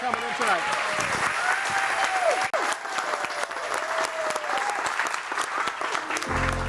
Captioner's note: audience cheering and applauding